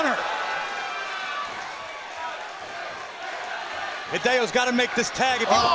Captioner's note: crowd cheering